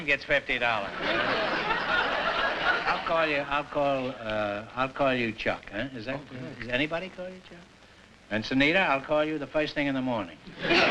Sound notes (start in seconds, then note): 0.8 laughter; 10.5 laughter